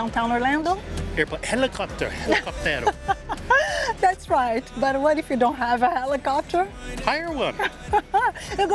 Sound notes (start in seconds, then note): 2.2 laughs